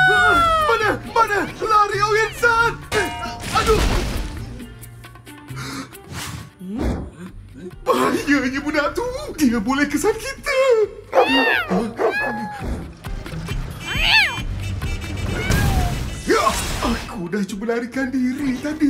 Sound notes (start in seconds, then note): 11.1 dog barking in the distance; 13.3 meows